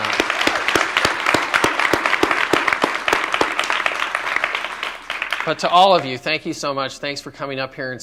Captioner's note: applause